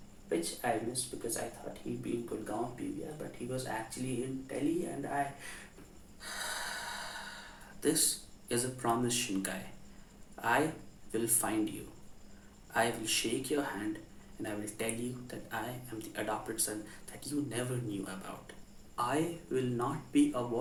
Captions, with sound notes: which I missed because I thought he’d be in Gurgaon PVR but he was actually in Delhi and I- *sigh* this is a promise Shinkai, I will find you. I will shake your hand and tell you I’m the adopted son you never knew about. I will not be avoided.